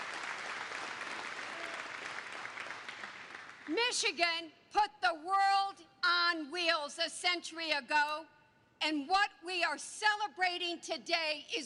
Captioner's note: applause